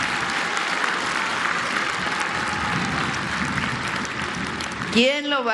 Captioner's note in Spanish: aplausos